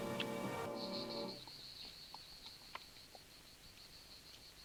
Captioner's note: insects chirring